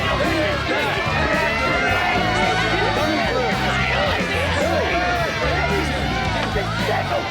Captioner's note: sirens wailing